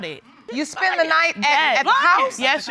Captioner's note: yelling